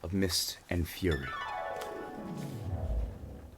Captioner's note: dreamy sound effect